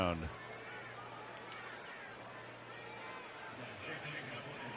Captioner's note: crowd chanting